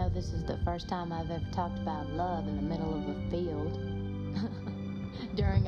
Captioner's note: chuckling